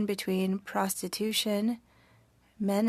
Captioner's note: speaking French